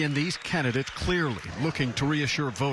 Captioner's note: cheering